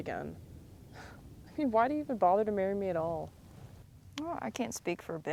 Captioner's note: chuckles